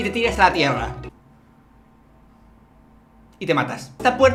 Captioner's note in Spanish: silencio incómodo